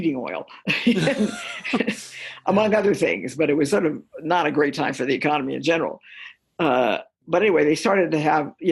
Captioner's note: laughter